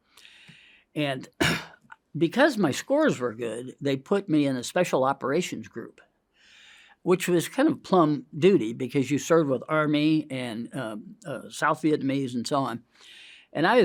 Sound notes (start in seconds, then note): 1.4 clears throat; 6.4 inhales